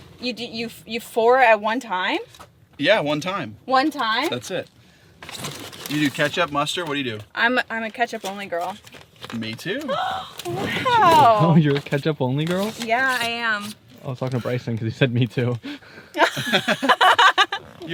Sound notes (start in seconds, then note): 10.1 gasps; 16.2 laughs